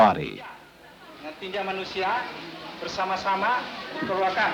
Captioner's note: Indonesian speech